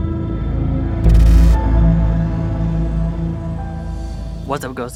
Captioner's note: static flickering